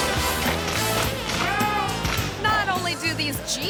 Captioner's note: worker shouts